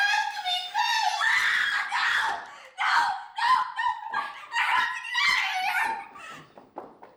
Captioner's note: screams